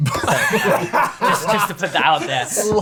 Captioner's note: laughter